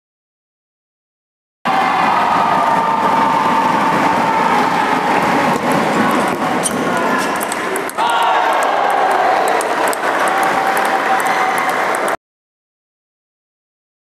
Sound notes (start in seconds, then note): 8.0 applause